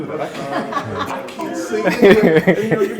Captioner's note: laughing